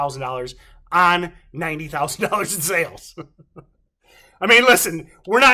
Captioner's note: laughs